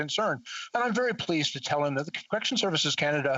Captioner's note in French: voix de l'interprète